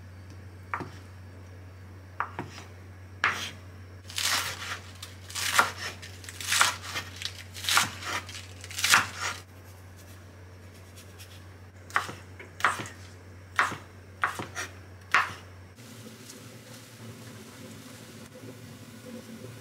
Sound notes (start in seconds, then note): 5.2 chop vegetables